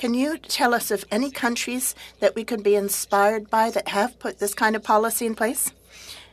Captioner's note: speaking French